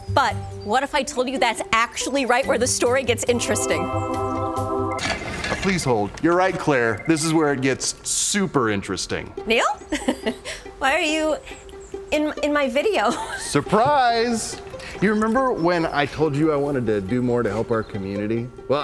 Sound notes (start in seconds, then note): 2.0 celestial music; 4.6 bright playful music; 6.0 phones ringing; 9.8 chuckling